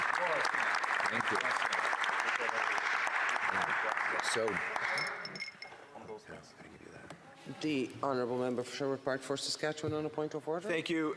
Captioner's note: applause